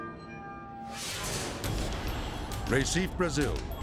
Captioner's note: ominous music; transition whooshes